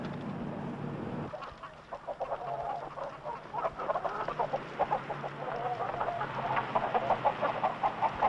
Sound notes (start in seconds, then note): 3.1 chickens gobbling